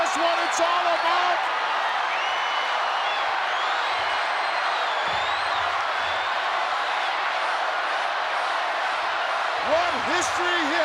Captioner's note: applause